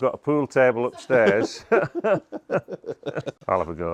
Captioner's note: laughing